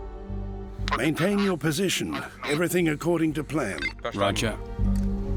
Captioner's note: man on radio